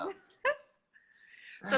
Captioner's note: chuckles